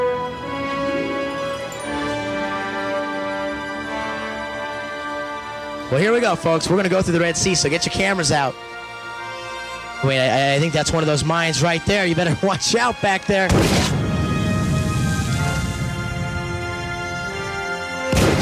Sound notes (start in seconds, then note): 13.5 mine explodes; 14.7 dramatic music; 18.1 mine explodes